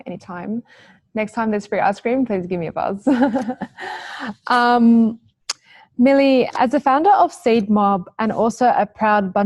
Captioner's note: laughs